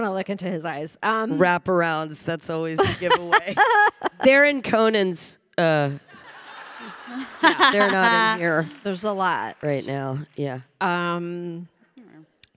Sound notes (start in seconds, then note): 2.8 Samantha laughing; 6.1 audience laughing